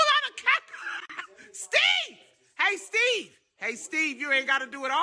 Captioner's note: laughing